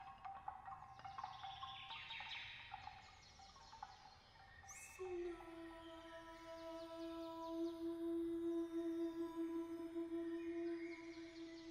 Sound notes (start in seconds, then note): 0.7 birdsong